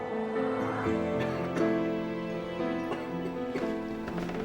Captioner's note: coughs